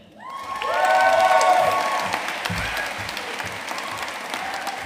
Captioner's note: audience cheering and applauding